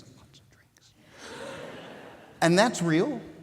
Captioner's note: audience laughing